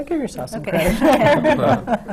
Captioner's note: laughs